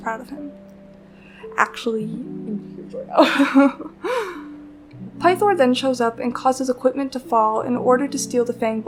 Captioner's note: laughs